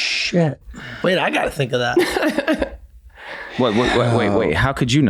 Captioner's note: Meg laughs